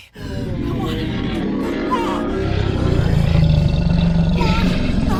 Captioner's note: creature roaring